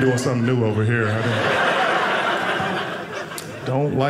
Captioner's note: audience laughing